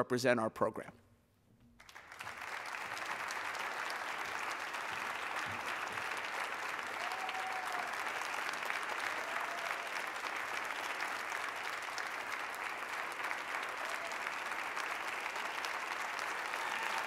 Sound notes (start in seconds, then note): 3.5 applause; 6.2 cheers and applause